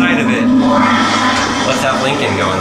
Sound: toilet flushing

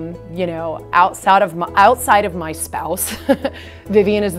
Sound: chuckling

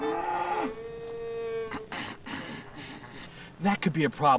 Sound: cow mooing; clears throat

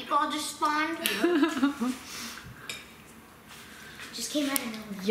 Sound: laughing

